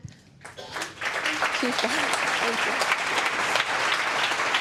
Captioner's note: applause